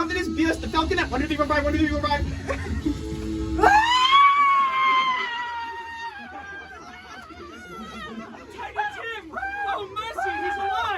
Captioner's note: screaming